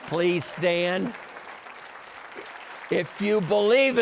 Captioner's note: applause